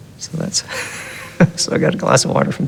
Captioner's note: chuckle